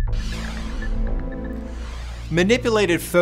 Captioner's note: logo swooshing